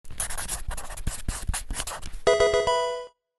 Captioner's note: marker scratching; electronic video game chime